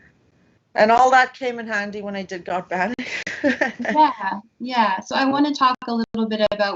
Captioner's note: laughs